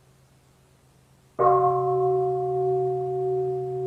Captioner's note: bell